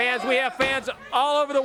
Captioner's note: crowd chatter